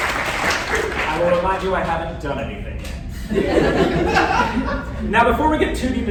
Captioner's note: applause; laughter